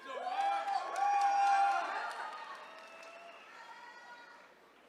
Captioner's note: attendees cheering